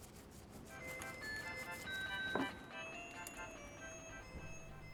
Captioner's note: phone rings